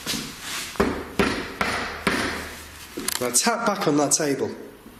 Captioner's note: tapping